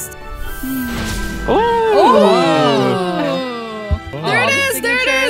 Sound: all exclaiming excitedly

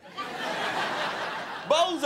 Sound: crowd laughing

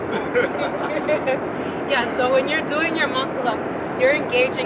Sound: laughing

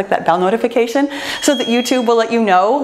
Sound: bell chimes

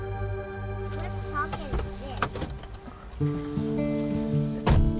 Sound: construction in background

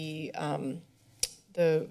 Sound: smacks lips

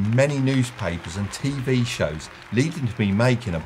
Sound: audience applauding

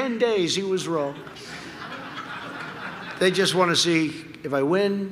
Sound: laughter

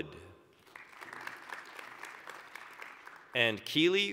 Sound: applause

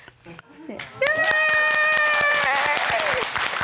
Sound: all applauding and cheering

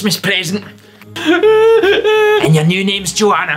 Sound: childish sobs of pure misery

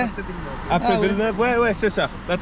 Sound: speaking in a foreign language

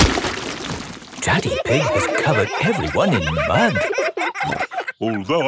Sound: all laughing

